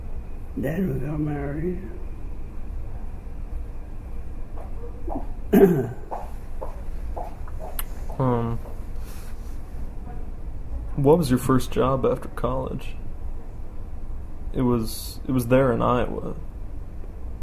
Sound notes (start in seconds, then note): 5.5 clears throat